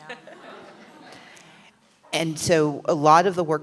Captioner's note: laughter, murmuring